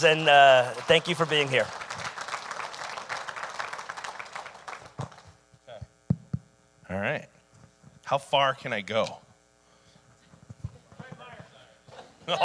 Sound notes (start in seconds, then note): 2.1 audience applauding